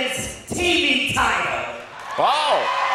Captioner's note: audience cheers